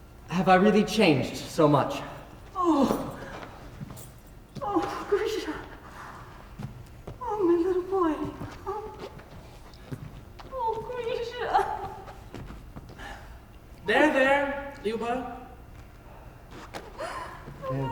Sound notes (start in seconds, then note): 11.0 crying; 17.0 crying